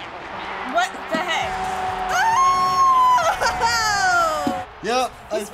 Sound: screams

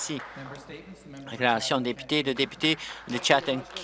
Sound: applause

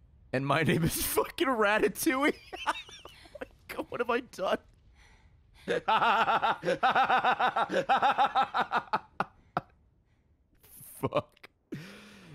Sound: laughs

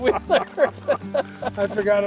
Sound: both laughing

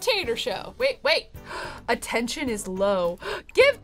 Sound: gasps

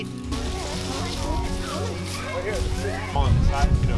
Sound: chattering

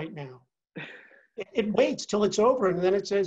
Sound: laugh

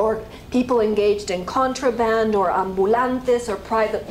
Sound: spanish

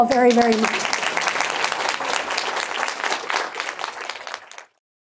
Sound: audience clapping

